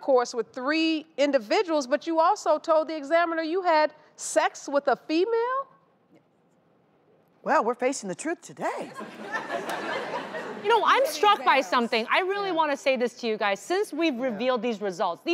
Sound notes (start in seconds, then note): 9.0 audience laughs